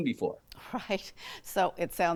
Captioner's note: chuckling